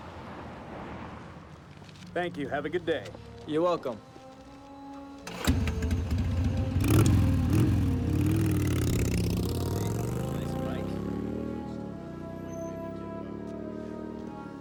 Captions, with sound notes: - Thank you. Have a good day. - You're welcome. (engine revving) - Nice bike. (foreboding music)